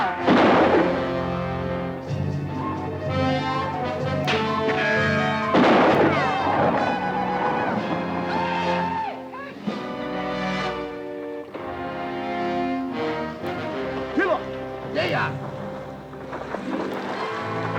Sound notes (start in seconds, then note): 1.3 dramatic orchestral music; 4.2 bullet ricochets; 5.0 guns fire; 5.9 Apaches howl; 14.2 Red Hawk speaks Spanish